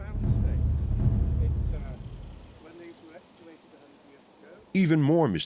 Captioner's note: indistinct chatter